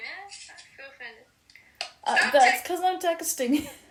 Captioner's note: laughs